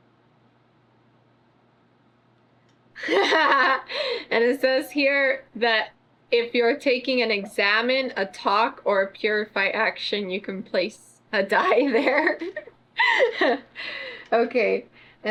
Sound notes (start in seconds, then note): 3.0 laughs; 13.0 laughs